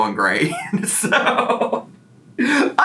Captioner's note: laughs